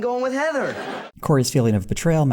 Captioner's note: audience laughter